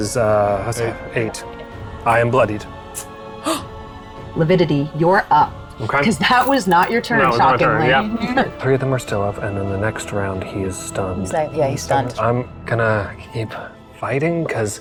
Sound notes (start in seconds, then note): 3.4 gasping; 7.9 chuckling